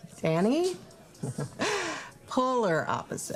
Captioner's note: chuckling